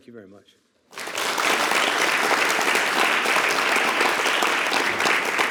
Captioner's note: attendees applauding